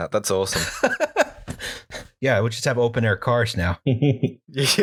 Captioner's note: laughter; laughter